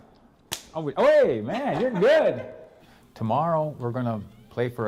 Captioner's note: slaps hand